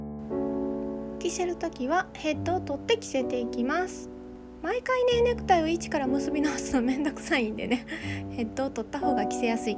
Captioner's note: laughs